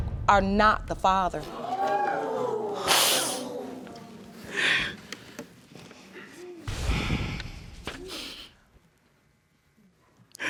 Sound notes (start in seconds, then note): 1.4 audience exclaims; 3.2 sobs; 8.0 sighs